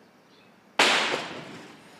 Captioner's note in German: Schuss